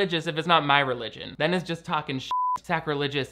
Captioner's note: beep